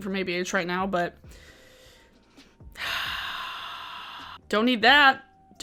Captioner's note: sighs heavily